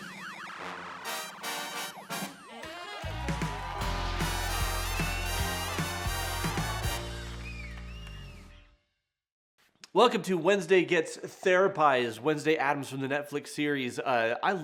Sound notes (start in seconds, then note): 0.1 upbeat music; 3.9 audience cheers